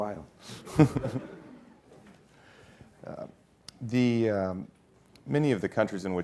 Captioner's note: laugh